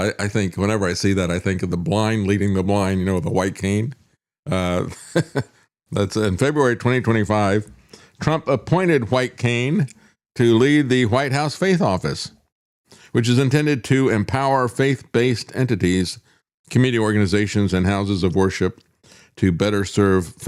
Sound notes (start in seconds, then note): 4.7 laughs